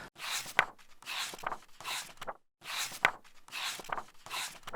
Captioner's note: pages turning